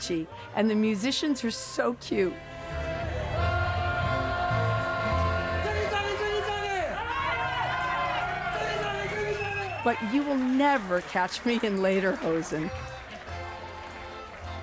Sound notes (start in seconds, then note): 4.5 shouts in German; 6.3 crowd cheering; 8.1 repeats in German